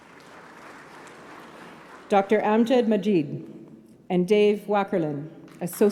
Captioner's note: applause